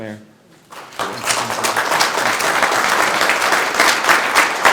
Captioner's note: group applauding